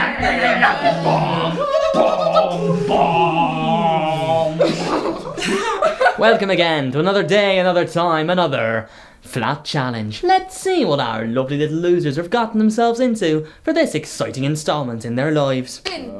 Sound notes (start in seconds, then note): 4.2 laughter